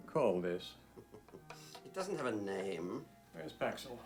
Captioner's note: chuckles